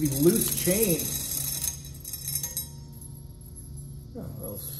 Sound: chains jingling

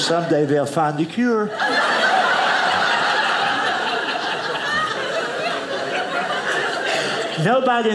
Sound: audience laughing

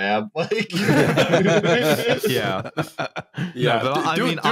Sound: laughter

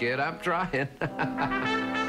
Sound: laughs

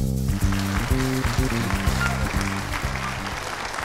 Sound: audience applauding

